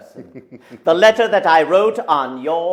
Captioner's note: laughs